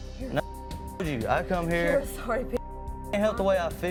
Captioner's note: beep; beep